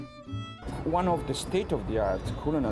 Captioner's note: with Italian accent